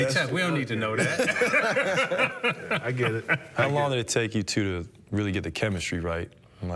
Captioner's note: laughter